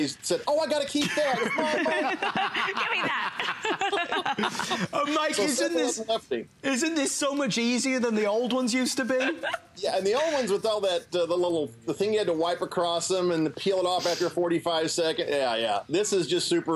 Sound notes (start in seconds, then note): 1.0 laughter